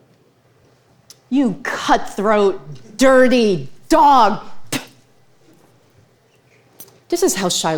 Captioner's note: spits